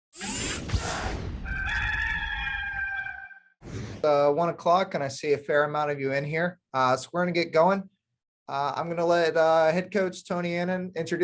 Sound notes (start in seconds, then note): 1.4 rooster crowing